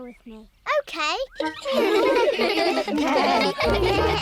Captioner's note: giggling